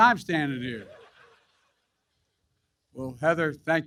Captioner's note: laughter